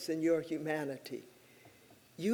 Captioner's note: none